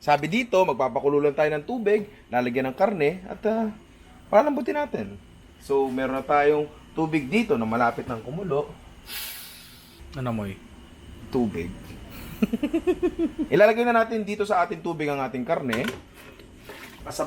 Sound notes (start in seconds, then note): 9.1 sniffs; 12.2 laughs